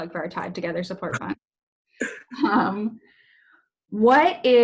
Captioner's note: both laugh